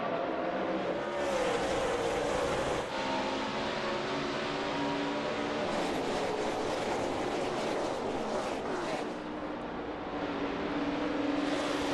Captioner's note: engines roar